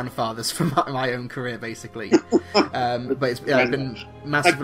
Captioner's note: laughs